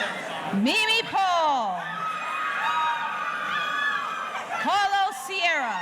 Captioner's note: audience cheering